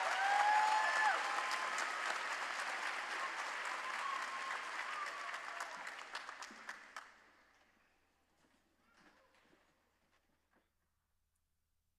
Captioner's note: applause